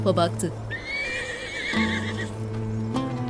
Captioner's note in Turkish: At kişneme sesi